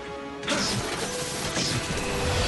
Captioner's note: sparks